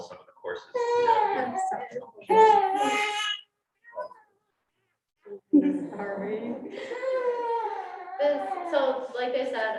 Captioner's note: baby crying